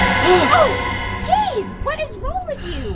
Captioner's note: dramatic music; gasping